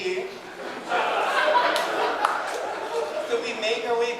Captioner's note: audience laughing